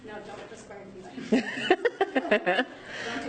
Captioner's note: laughing